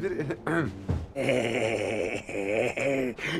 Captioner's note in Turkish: Nefes sesi; Öksürme sesi